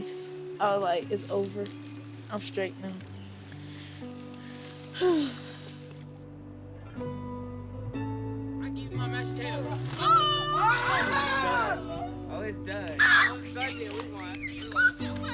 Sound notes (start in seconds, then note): 4.8 sighs; 10.0 boys shouting